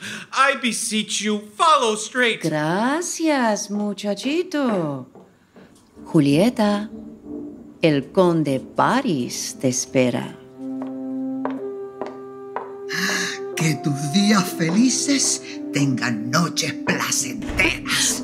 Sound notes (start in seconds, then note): 4.6 footsteps; 10.5 footsteps departing